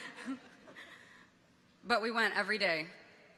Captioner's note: people chuckle